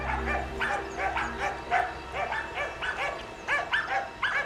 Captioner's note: dogs barking